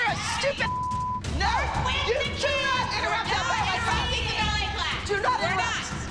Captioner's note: shouting